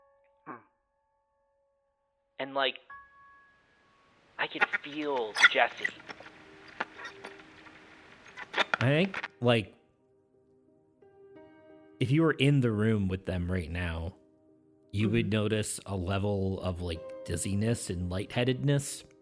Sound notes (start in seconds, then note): 4.4 static